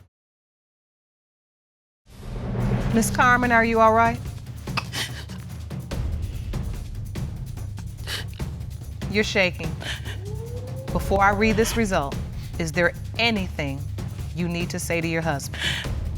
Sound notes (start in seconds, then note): 4.7 sobbing